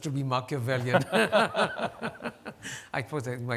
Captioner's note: laughing